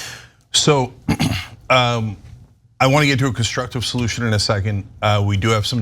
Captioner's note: cough